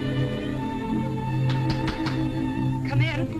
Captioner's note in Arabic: طرق الباب